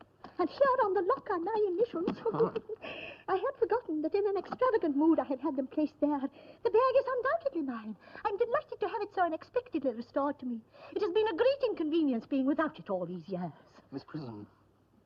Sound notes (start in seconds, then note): 2.7 sigh